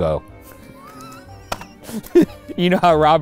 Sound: laughs

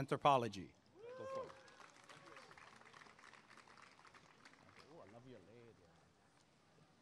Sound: applause and cheering

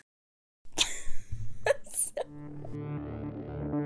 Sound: laughs

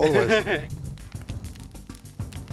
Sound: both laugh

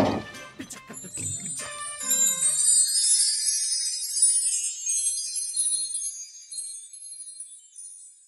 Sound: magical Sound

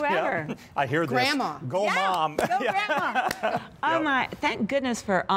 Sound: laughter

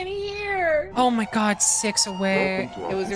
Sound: sirens blare

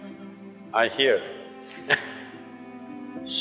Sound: laughs

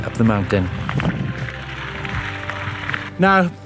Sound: gravel crunching softly

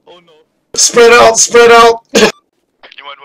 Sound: laughs

